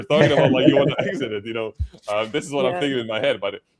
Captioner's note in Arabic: ضحك